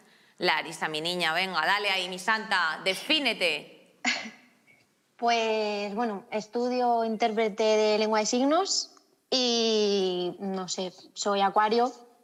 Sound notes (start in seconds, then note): 3.8 laughter